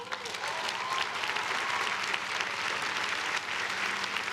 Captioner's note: crowd clapping